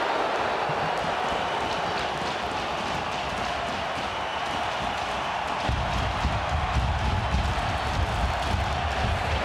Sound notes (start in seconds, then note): 0.8 crowd cheers